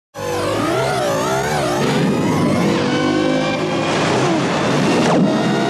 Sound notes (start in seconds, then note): 0.1 electronic engine revving